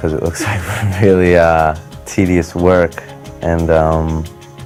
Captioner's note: chuckles